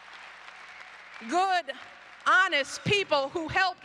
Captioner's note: applause